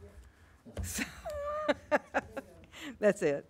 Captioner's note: laughs